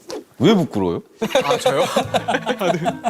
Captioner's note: haha